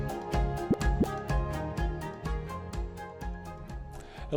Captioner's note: graphic pops